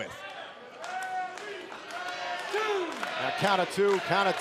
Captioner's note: crowd cheering